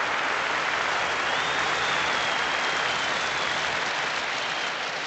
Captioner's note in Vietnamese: Tiếng vỗ tay tiếp tục